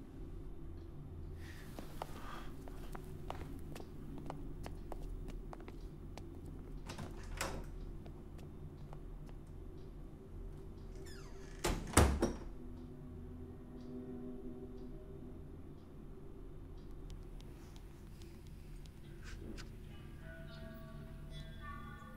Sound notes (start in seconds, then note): 6.8 door opens; 11.0 door closes; 12.6 ominous music; 19.2 ominous music